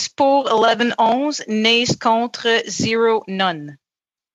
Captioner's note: speaking French